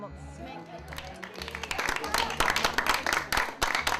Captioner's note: applause